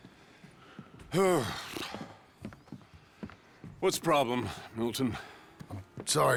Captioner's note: grunts